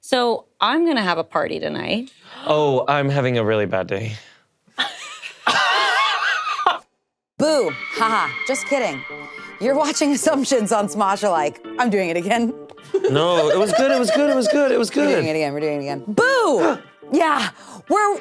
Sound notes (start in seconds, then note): 4.8 laughing; 16.4 both gasps